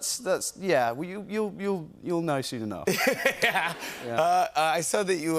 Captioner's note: laughs